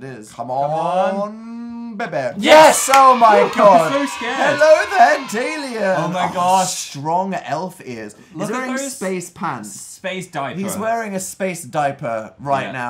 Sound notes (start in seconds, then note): 2.4 children cheering sound effect; 2.7 claps